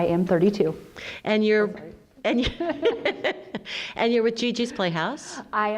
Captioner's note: laughs